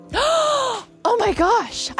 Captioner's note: gasping